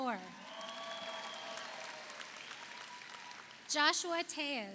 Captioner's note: audience cheers; audience applauds